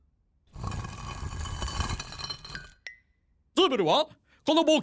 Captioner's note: gritty scraping